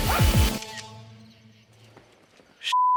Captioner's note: camera clicks